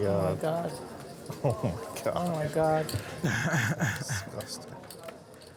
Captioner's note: shocked murmurs from the table